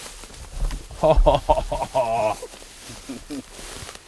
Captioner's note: laughs